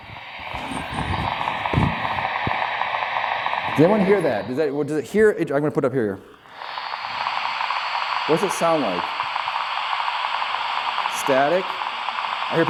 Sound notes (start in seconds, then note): 0.0 electronic static